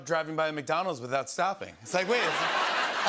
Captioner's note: laughter